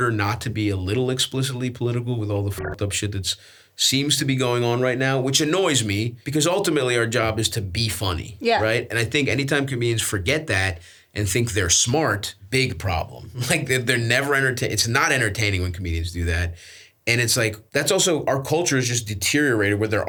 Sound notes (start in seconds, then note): 2.5 beeps